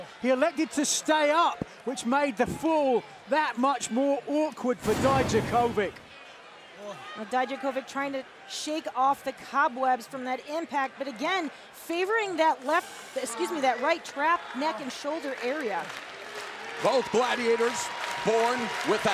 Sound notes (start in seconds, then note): 16.6 crowd cheering